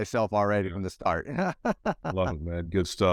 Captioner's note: laughs